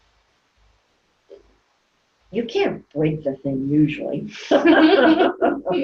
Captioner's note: laughing